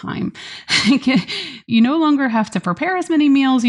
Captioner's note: laughs